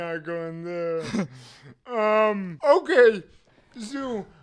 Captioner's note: chuckles